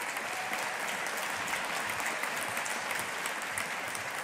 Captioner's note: audience applauding